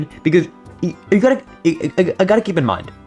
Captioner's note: stutter Moment